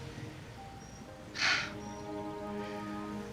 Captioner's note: sighs